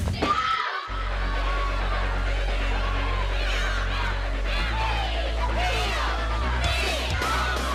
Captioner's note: cheering